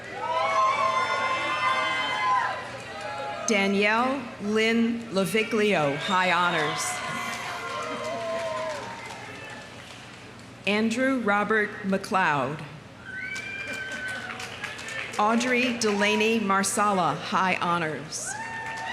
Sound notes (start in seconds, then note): 0.0 audience cheering; 6.3 audience applauding; 7.1 audience cheering; 13.0 audience cheering; 13.2 audience applauding; 18.2 audience cheering; 18.3 audience applauding